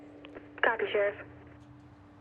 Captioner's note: radio